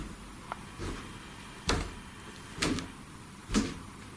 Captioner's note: loud thumping